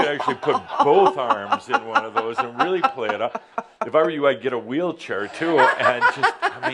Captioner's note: she chuckles